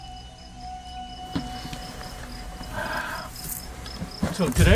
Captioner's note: sighs